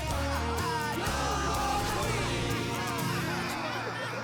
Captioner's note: crowd